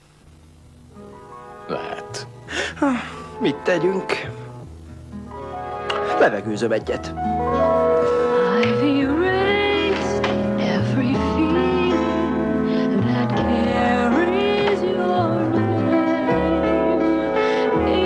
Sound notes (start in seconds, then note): 2.4 sighs